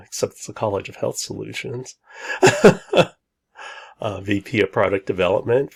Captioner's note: laughs